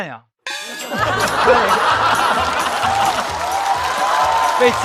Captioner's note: laughter